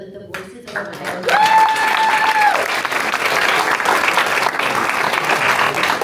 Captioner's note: applause